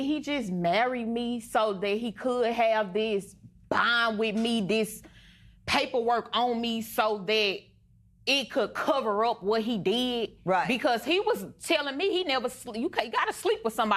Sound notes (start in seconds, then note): none